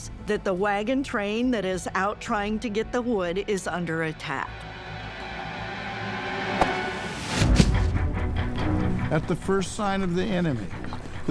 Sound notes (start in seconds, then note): 6.2 dramatic music; 6.5 arrow whooshes